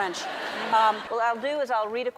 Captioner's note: crowd members laughing